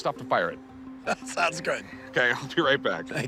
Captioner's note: laughs